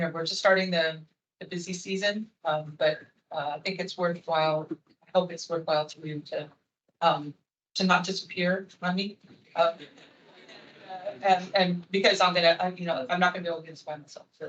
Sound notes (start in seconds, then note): 9.8 attendees laughing